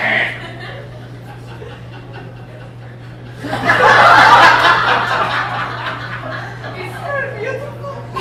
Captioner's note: sobbing